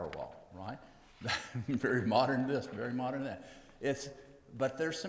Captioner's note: laughs